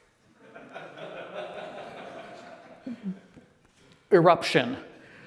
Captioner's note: laughter